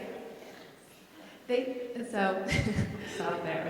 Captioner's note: laughs